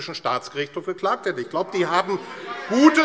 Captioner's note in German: Zurufe und Widerspruch DIE LINKE